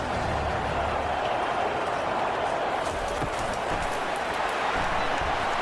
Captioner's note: crowd Noises